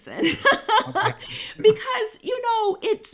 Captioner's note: chuckles softly